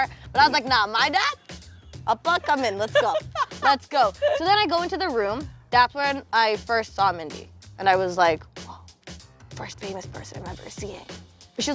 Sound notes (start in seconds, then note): 2.2 laughing; 8.3 whispering